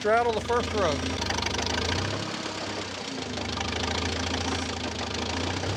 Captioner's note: tractor motor chugging